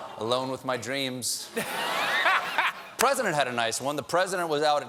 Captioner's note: laughter; audience reacts